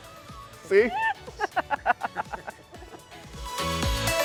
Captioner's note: laughing